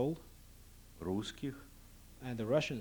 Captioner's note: non-english speech